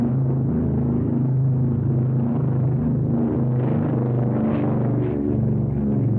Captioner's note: airplane engines roaring